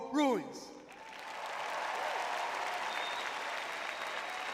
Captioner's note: cheering; applause